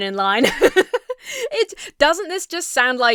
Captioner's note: laughs